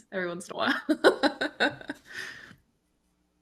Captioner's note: laughs